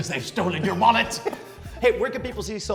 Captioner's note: laugh